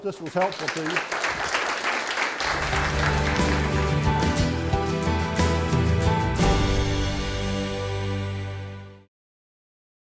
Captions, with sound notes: I hope this was helpful to you. (audience applause) (instrumental music)